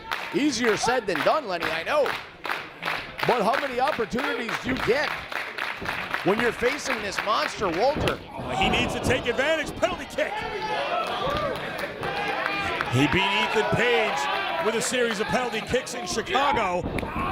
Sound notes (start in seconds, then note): 11.3 applause